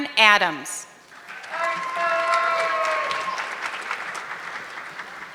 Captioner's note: audience clapping